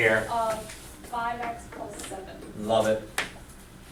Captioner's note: voiceover